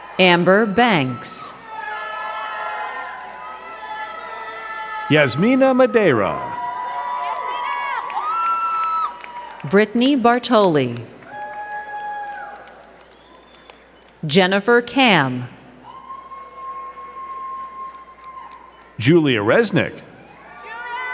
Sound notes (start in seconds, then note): 0.0 crowd cheering and clapping; 1.6 crowd cheering and clapping; 11.0 crowd cheering; 15.8 crowd cheering